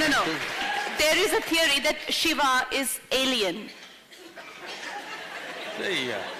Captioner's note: laughter